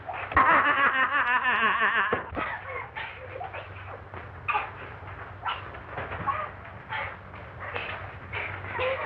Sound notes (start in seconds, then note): 0.1 laughing wildly; 3.5 both grunting, breathing hard